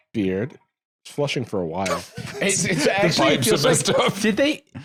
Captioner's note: laughing